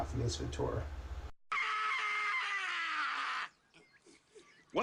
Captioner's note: screaming in the background